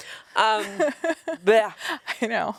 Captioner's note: Anna laughs